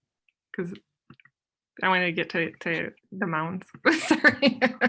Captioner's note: laughs